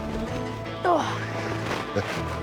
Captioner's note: grunting; chuckling